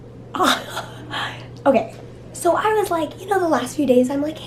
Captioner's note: laughs